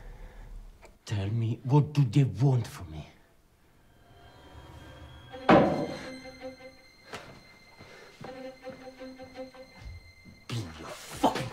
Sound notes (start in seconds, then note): 5.4 banging; 7.1 jittery instrumental music